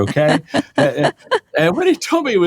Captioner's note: laughing